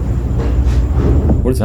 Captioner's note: item mysteriously banging